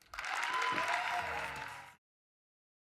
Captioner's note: applause